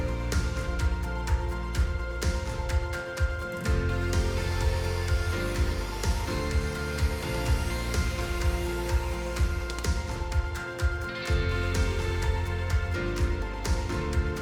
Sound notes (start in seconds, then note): 0.1 gentle jazzy music; 3.8 tool humming; 11.2 gentle jazzy music